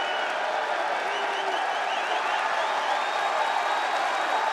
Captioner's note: crowd cheers